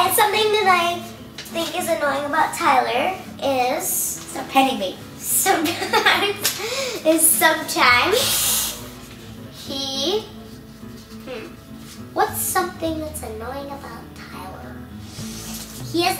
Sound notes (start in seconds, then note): 5.4 laughing; 8.1 hissing